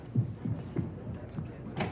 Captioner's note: rapid footsteps